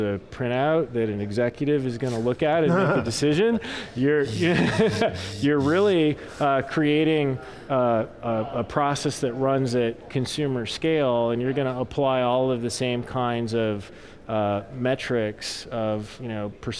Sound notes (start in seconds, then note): 2.6 laughing